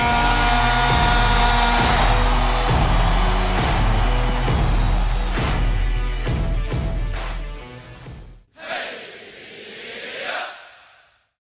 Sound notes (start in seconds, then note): 0.0 audience cheering; 8.5 people chanting